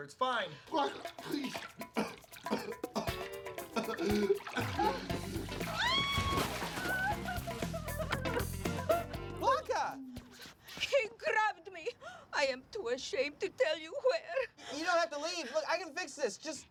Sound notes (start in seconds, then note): 4.1 coughing; 7.7 screaming; 7.7 splash